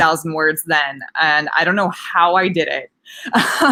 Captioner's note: laughs